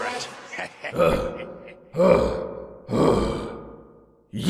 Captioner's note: exhausted panting